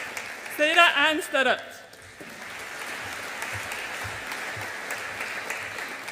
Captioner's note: audience applauds